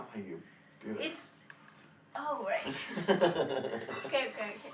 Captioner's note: laughing